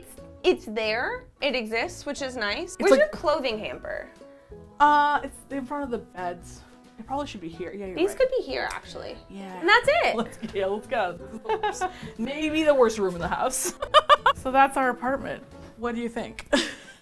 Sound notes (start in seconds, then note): 9.4 cheerfully; 11.3 laughs; 13.6 laughs; 16.5 chuckles nervously